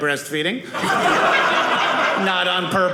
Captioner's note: audience laughing